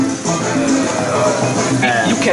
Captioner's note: satisfied italian sounds